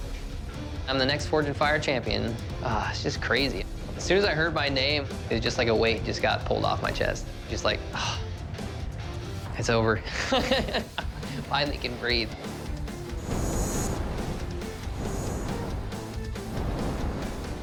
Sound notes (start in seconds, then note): 7.9 sighs; 9.9 laughs